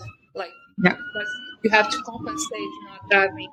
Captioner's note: ambulance blaring